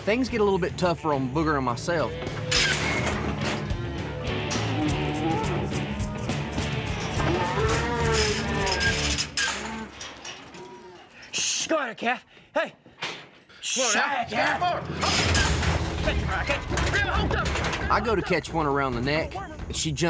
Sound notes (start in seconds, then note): 2.4 machine shuts; 7.3 calf bellowing